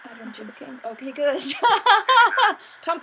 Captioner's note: fake laughs